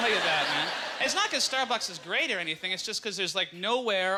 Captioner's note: audience laughter